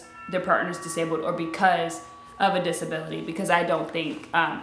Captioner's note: doorbell ringing